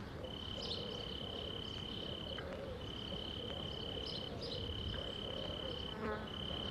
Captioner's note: birds chirping